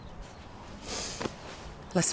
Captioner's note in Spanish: olfateos